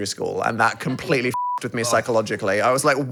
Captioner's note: beep